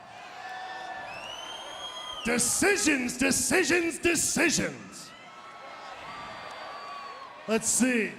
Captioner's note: applause; applause